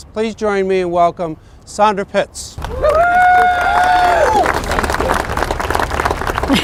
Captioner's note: applause